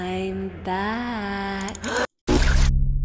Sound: clicking

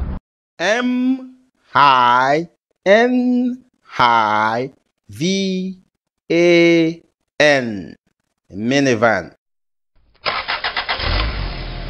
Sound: minivan Sound

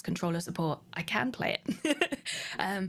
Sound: laughter

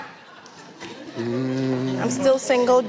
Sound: hums

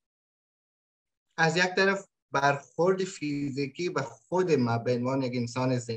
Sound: speaks in Dari

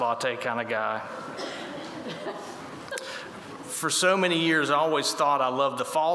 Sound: laughter

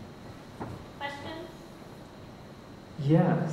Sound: voiceover

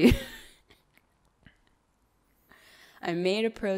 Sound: laughs

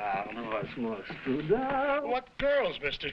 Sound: Burgomil speaking foreign language

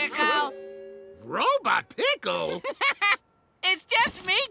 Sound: laughs

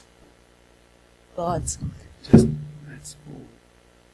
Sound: microphone clunks

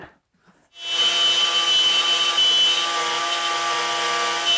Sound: cutting wood

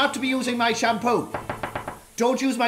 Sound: knocking

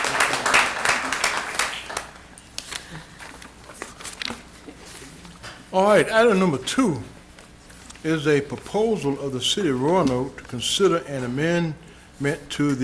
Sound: applause

